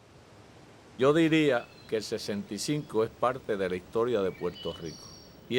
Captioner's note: speaking Spanish